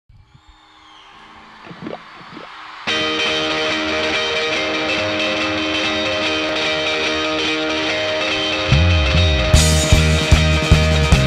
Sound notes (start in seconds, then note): 0.2 audience applause